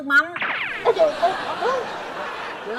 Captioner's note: laughing